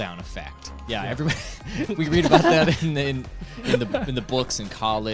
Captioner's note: laughs